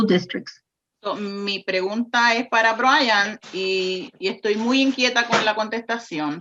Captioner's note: speaks in foreign language